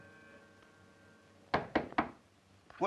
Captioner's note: door knocks